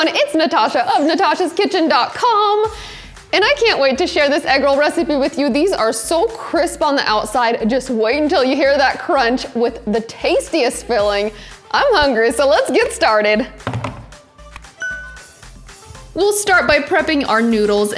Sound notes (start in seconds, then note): 13.6 hands tapping; 14.8 bell dings